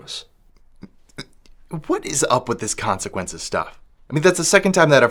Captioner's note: stammers